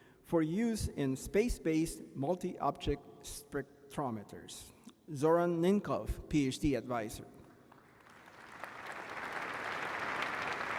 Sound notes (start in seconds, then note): 9.4 applause